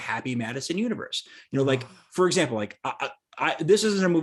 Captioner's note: sighs